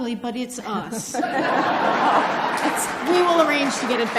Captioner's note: audience laughs